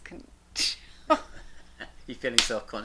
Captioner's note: both laughs